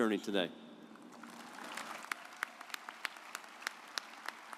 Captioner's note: audience applauds